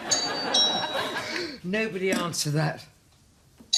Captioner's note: doorbell; doorbell